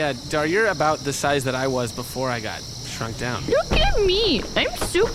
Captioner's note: in a silly voice, stomping around loudly